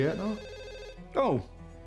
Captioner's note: scottish accent; phone rings